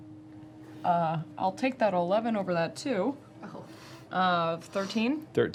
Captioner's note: none